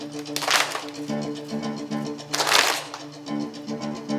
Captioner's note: choir clapping